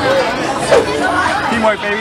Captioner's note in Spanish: whoosh